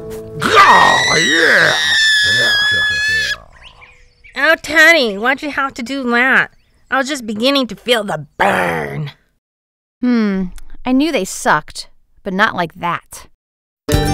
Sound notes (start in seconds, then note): 0.4 aerobics instructor screams; 13.9 upbeat western music